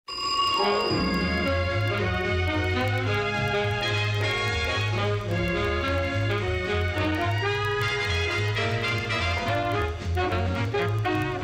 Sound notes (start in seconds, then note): 0.1 telephone ringing; 2.7 theme music playing